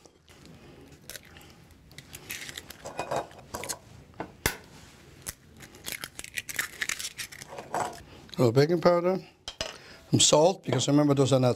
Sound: eggs cracking

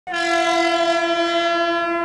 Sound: train Horn

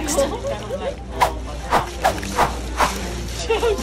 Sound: people laughing in clip; whooshing sound effects

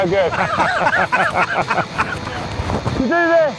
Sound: laughing

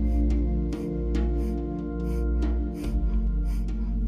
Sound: huffing

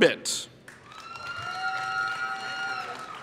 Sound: applause

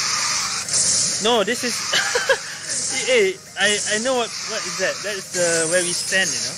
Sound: laughs

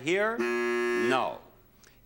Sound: buzzer beeps

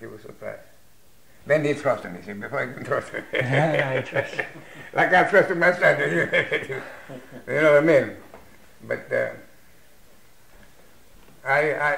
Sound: laughs

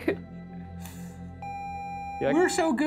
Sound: video game screen beeping

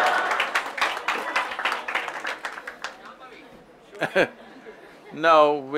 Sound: laughter/Applause

